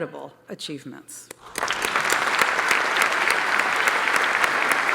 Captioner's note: applause